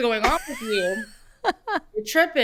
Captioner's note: laughs